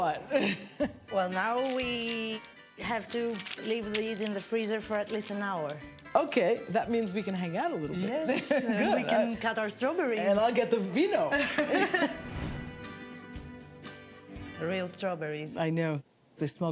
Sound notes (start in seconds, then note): 11.4 laughs